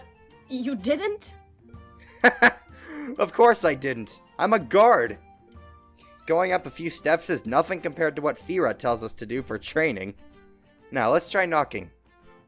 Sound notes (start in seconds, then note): 2.1 laughs